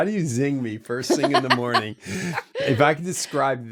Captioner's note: laughing